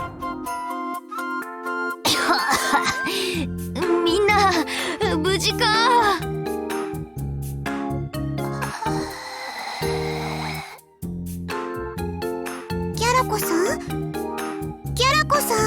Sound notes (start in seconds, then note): 2.0 coughs